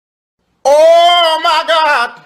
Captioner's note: sussy noises